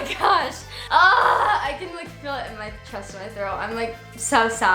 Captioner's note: laughs; groans